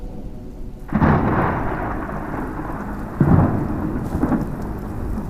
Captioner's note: thunder crashing